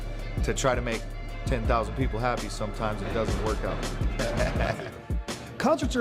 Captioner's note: laughs